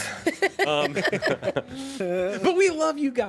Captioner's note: everyone laughs